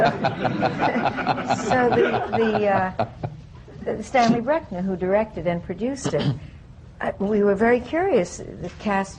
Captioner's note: laughter